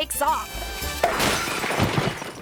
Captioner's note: glass shatters; cork pops